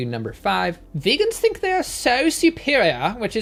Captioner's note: British accent